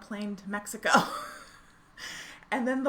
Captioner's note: laughing